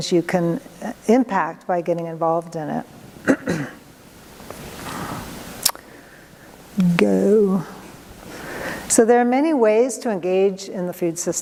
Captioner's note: clears throat